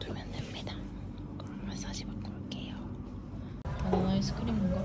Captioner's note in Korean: 속닥